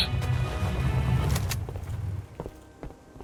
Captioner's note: engine stops